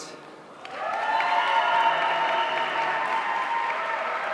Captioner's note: audience cheering